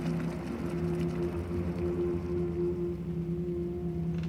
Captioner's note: water bubbling